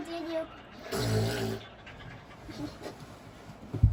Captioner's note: laughs